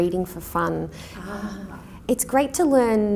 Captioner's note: sighs agreeingly